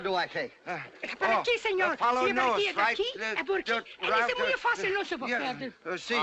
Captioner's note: both give him directions in spanish